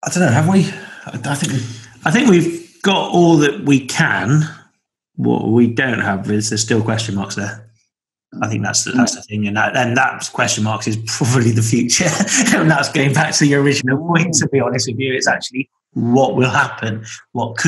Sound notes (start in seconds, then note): 12.0 laughs